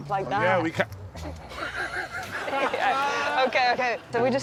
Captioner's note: laughs